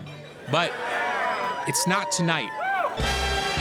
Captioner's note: guests cheering; upbeat music playing